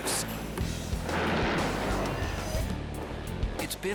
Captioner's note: canopy opens